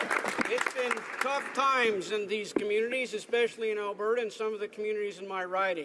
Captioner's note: some Applause